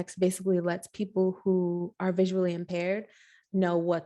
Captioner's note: none